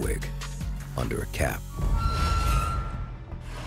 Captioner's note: cell door creaks